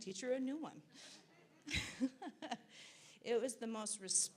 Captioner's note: laughs